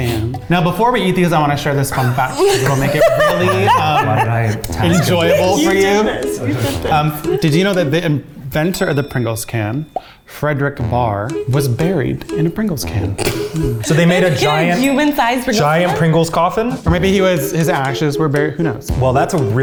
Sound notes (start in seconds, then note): 13.2 laughing